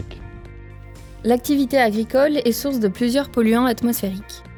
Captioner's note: voice-over